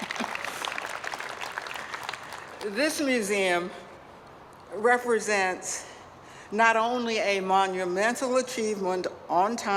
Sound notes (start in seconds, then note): 0.0 applause